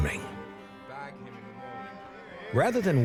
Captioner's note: men cheering